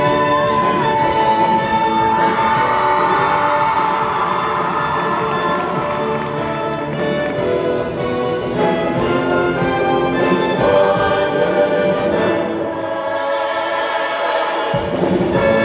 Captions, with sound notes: (wild cheering and applause) (singing) "Wonderland!"